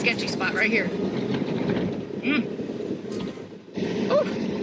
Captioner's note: car engine roaring